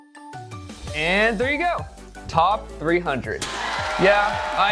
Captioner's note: cheerful music; people cheering